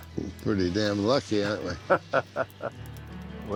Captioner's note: laughs